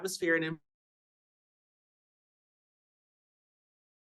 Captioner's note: audio cuts out